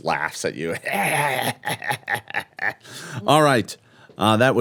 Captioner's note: laughing